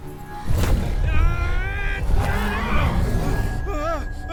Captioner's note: Kaak groans